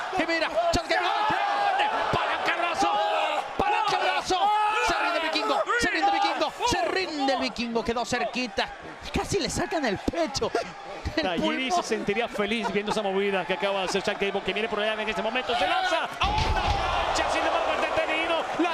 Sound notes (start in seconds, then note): 10.3 laugh